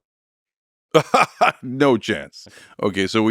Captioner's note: laughs